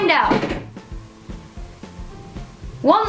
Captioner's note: concerning rattling noise like something falling